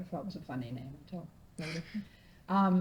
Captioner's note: stoner laughs